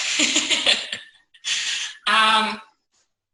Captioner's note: laughs